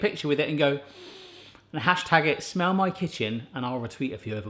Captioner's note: inhaling deeply